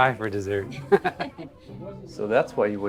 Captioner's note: Jeff and Lynn laughing